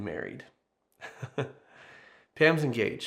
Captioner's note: laughs loudly